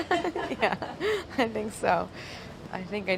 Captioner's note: laughing